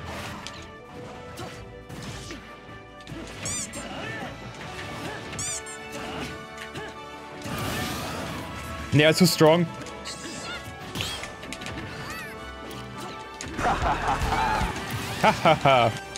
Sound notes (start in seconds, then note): 3.3 squeak; 5.3 squeak